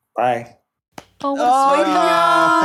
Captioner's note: clapping